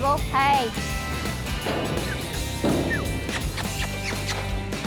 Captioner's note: calling